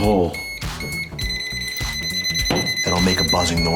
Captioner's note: tester beeping